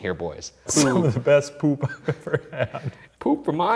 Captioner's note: laughing